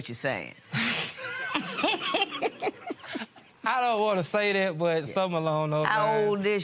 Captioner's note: laughs